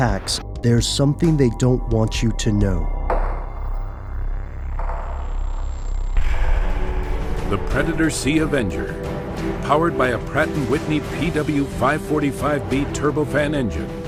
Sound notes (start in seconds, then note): 7.0 dramatic music; 7.9 voiceover